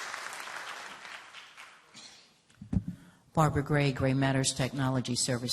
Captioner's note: applause